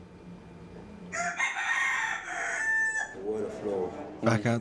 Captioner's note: cockerel calls